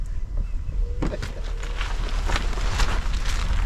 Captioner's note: laughs